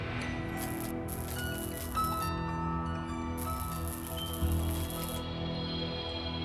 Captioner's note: eerie music; light flickering